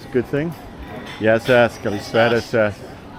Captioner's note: speaking in foreign language